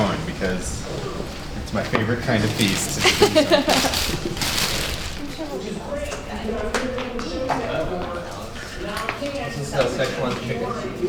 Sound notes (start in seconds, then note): 2.9 woman laughs; 7.5 people chatter